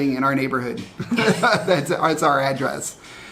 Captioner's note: both chuckle